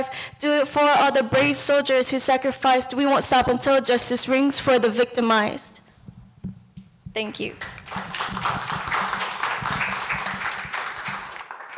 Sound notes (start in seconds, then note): 7.6 clapping